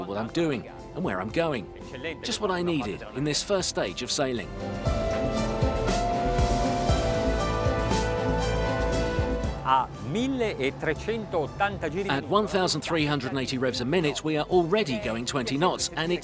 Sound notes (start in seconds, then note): 4.9 slow, inspirational music; 9.7 speaking foreign language